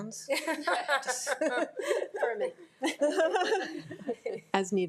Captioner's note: board laughing